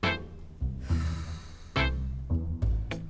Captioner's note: sigh